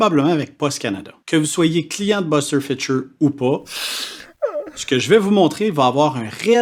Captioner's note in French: pleurs